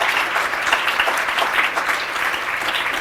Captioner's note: applause